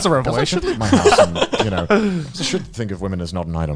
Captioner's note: laughing